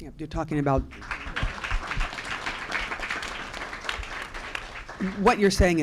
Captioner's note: applause